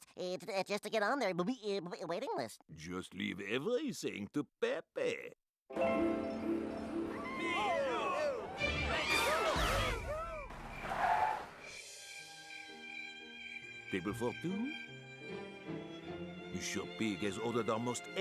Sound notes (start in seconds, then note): 7.3 crowd chattering; 10.5 tires skidding